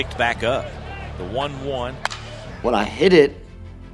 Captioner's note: bat hits ball